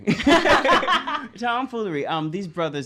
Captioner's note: laughs loudly